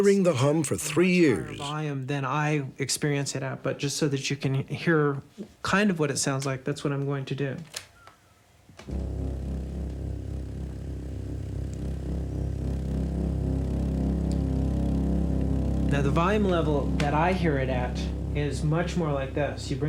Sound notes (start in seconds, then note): 8.6 shrill humming